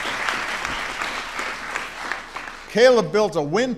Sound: applause

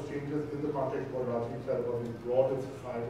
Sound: speaking in foreign language

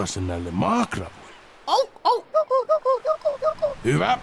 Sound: Juku Seal noises

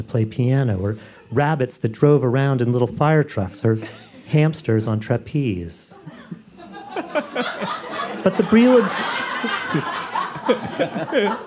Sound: laughter

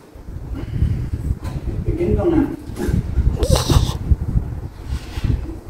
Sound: laughing

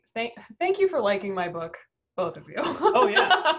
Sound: laughs

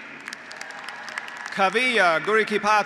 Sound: graduates applauding; graduates cheering

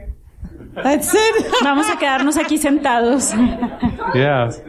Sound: laughter

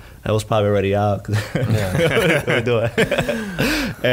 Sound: laughing

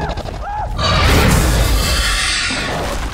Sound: screaming ceases

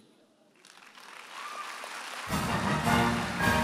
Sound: audience cheering and applauding

